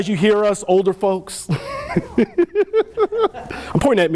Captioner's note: laughter